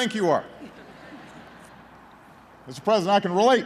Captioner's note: laughter